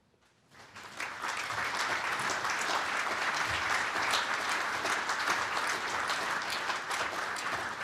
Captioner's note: applause